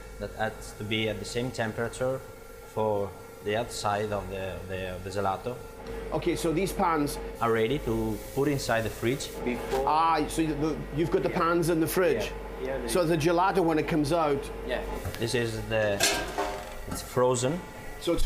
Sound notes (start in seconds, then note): none